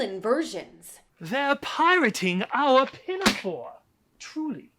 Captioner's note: slam